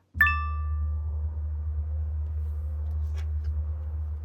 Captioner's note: phone beeping